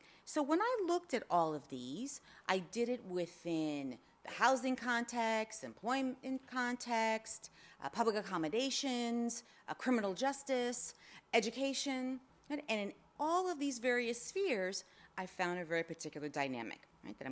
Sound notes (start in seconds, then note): none